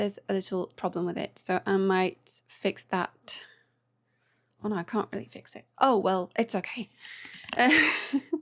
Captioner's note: laughter